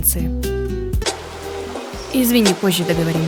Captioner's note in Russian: телефон Бланки звонит